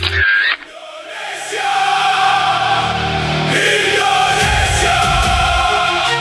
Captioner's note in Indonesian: berteriak